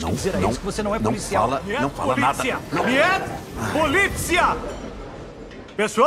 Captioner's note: yelling; in English